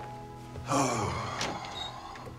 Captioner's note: sighs